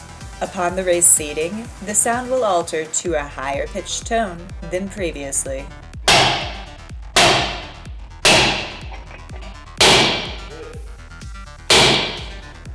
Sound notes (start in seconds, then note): 5.9 metallic striking